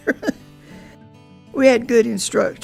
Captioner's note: chuckle